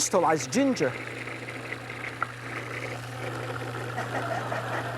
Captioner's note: blender buzzing; audience laughs